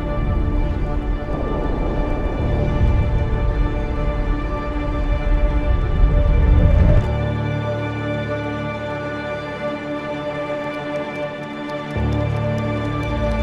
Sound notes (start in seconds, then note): 0.9 wind blows low; 5.8 dramatic music continues; 10.5 keyboard clicking